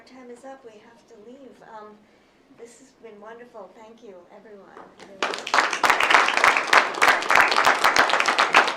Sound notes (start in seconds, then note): 5.0 applause